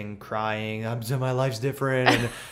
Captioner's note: laughter